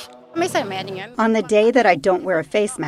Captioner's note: through translator